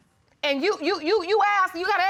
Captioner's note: stammers